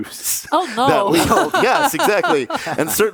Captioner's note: laughs